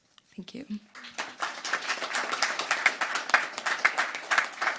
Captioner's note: crowd applauding